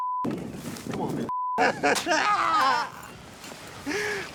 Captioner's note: DeMicco groans and weeps